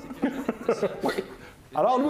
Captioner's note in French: rires